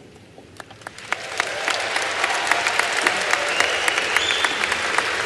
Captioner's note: applause